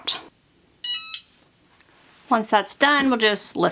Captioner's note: machine beeps